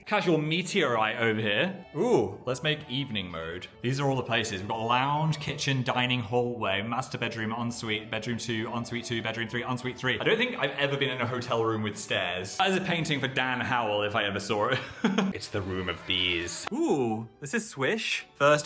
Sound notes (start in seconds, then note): 14.8 laughs; 16.3 bees buzzing